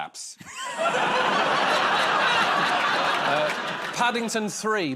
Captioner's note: laughter